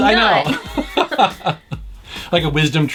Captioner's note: laughs